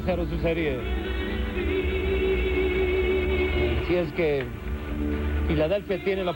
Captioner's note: crowd cheering loudly